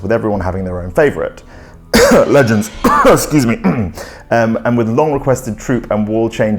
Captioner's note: cough